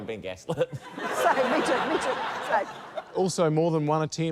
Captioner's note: laughter